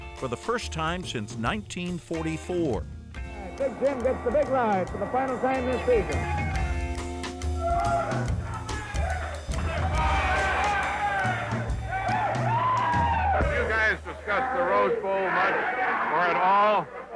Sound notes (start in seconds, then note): 8.5 cheering